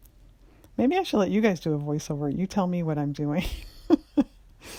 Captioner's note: laughs